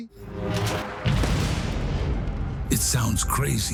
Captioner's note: gun fires